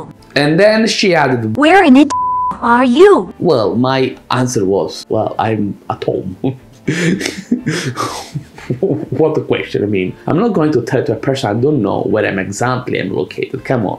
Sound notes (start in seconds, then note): 6.8 laughs